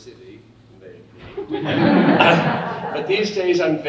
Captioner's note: audience laughing